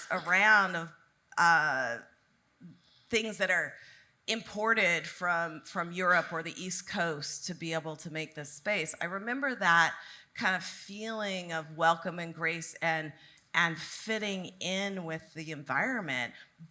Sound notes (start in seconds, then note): none